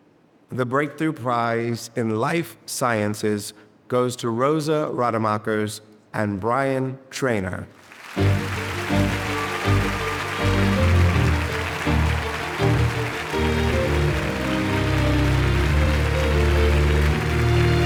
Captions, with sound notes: - The Breakthrough Prize in Life Sciences goes to Rosa Rademakers and Bryan Traynor. (upbeat music) (audience applauding)